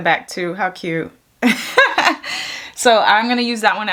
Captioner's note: chuckles